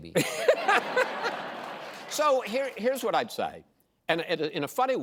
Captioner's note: laughter